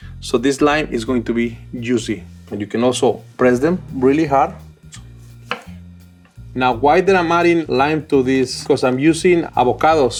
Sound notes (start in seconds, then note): 5.4 knife thuds